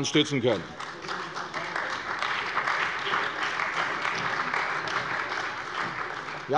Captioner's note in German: Beifall bei der CDU und dem BÜNDNIS 90/DIE GRÜNEN